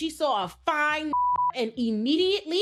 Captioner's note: beep